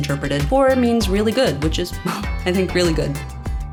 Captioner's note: chuckles